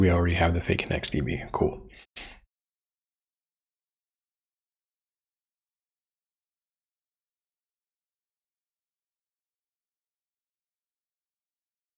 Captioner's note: blank Audio